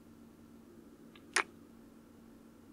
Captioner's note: kiss